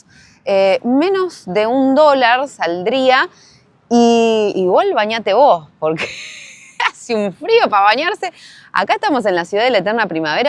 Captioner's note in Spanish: risas